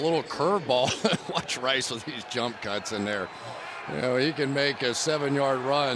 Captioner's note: laughs